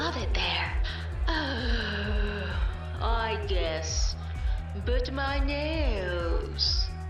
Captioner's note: sighing